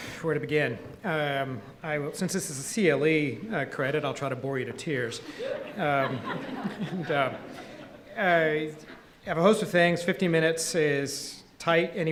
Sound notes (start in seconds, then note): 5.1 audience laughing